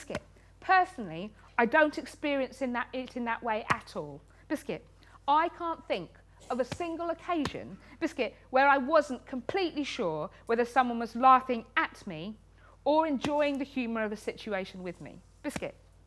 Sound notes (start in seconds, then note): none